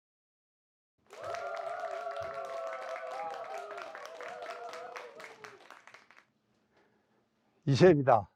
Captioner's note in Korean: 환호와 박수